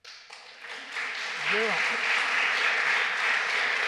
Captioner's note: applause